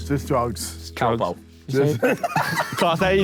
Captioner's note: JJ laughs